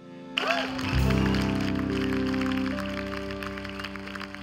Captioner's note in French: Applaudissements